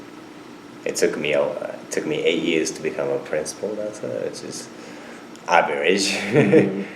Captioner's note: laughs